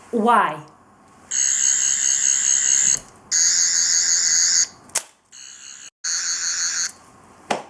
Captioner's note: Sonic Screwdriver Sounds